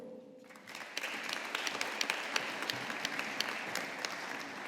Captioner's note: audience applauding